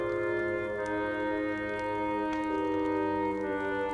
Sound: none

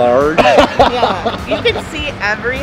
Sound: laughs

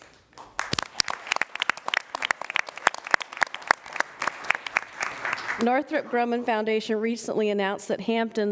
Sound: applause

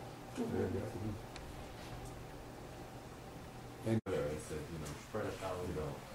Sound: people mumble

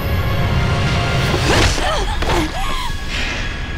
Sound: grunting

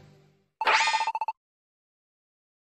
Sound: PMD text bloops

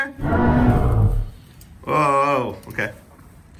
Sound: dinosaur roars

